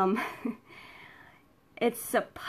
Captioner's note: laughs